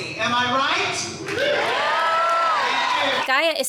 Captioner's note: guests cheering